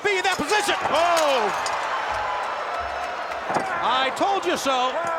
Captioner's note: applause